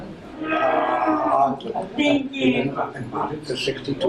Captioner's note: chatter